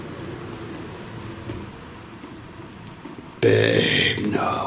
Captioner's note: soft footsteps